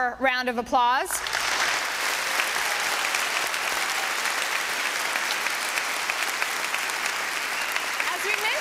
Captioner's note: applause